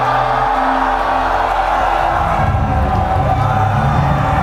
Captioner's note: audience cheers